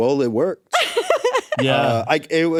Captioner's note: laughs